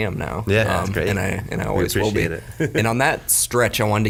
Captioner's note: chuckles